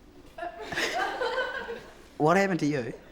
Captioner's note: all laughing